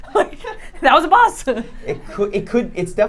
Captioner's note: laughs